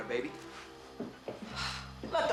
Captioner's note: sighs